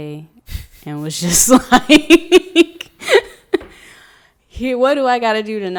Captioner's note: laughing